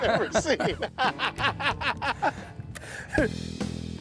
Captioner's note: laughing